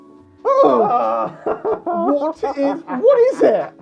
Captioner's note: screams